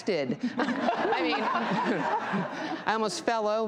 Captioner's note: audience laughing